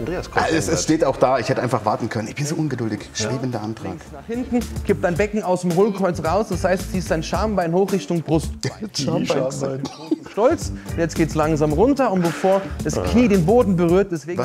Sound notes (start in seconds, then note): 9.3 chuckles